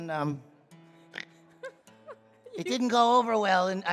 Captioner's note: snorting